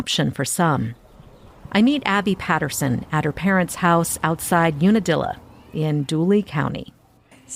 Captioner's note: bugs trilling and wind blowing